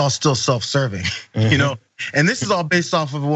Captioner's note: laugh